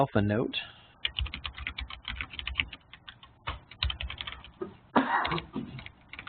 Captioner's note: keyboard clicking